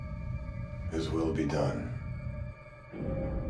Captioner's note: none